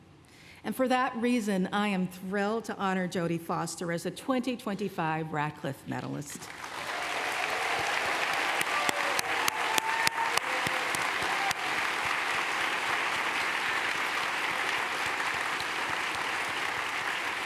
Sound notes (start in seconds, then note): 6.7 applause